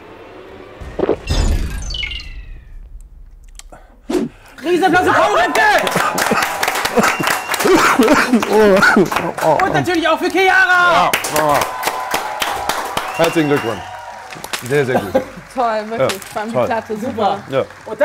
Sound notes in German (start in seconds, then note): 6.8 Applaus, Jubel; 7.9 Husten; 11.0 Jubel, Applaus